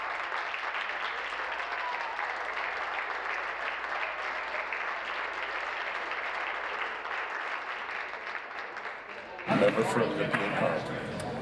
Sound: applause

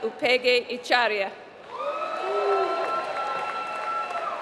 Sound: applause

